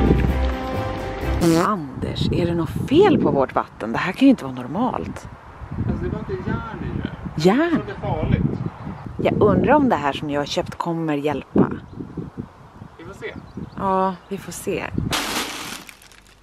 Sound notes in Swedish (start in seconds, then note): 1.4 ljudeffekt av prutt